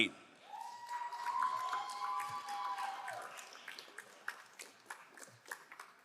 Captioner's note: crowd cheering and applauding